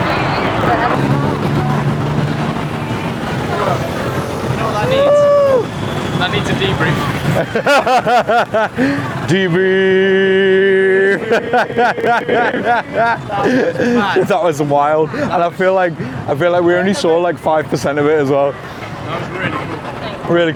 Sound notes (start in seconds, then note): 7.3 laughing